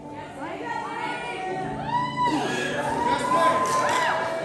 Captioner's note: applause